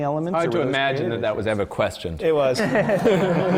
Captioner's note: laughter